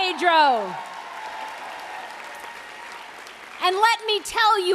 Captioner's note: applause